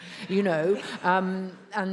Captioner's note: attendees laughs